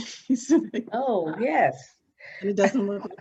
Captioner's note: laughs